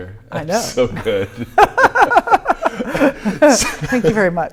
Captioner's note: laughing